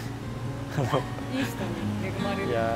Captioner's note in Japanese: 苦笑